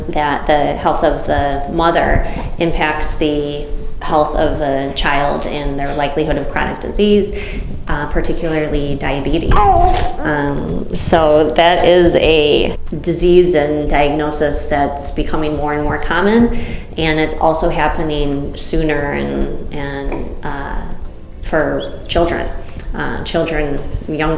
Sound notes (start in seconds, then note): 9.6 child chuckles